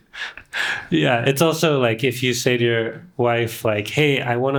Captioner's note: both laughing